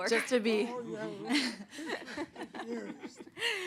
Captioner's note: laughter